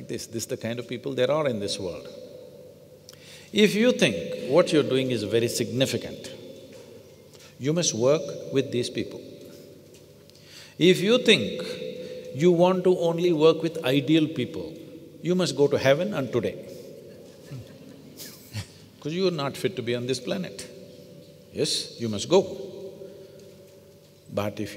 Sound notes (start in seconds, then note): 17.0 laughter